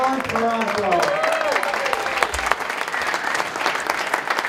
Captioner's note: applause